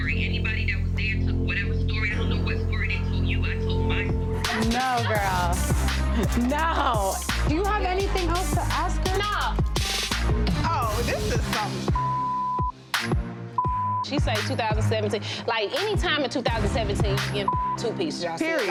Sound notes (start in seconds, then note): 11.9 beep; 17.4 beep